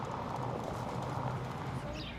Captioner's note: traffic noise